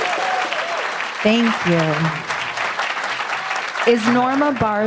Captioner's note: applause